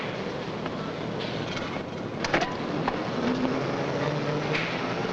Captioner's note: machinery rumbling nearby